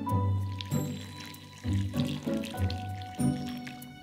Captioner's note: liquid pouring